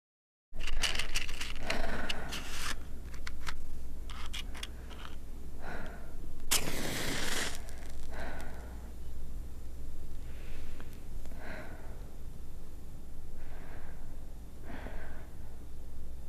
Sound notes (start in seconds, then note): 0.1 rustlin g; 6.5 hissing